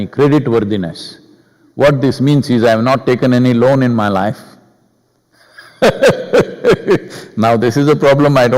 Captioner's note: laughs